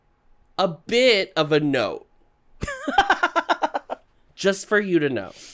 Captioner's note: burst of laughter